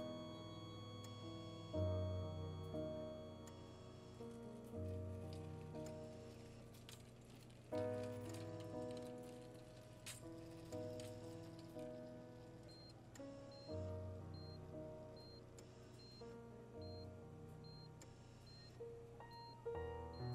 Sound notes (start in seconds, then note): 0.0 flat-line tone; 12.0 heart monitor beeping rythmically